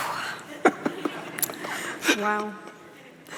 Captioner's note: Denis chuckles